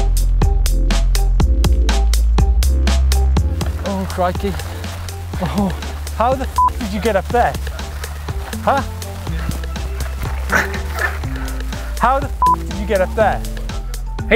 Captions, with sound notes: - Oh, crikey. Oh, how the (beep) did you get up there? How the (beep) did you get up there?